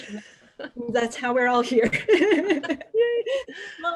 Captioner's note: laughs